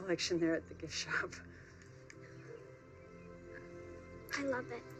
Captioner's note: laughs